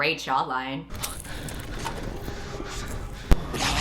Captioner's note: breathing heavily